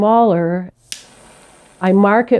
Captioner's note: torch hissing